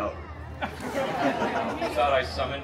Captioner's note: guests laughing